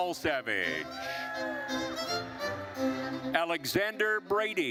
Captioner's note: attendees cheering